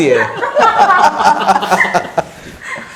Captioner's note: hahahahahahaha